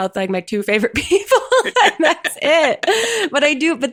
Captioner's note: laugh